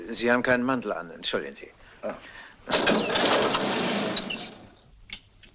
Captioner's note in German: Motor startet